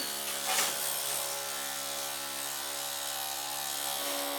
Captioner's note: drill buzzing